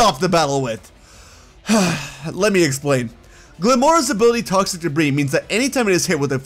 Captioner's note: sigh